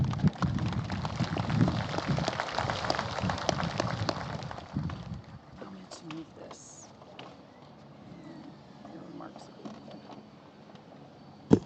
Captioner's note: applause